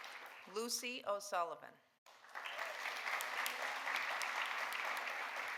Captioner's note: audience applauding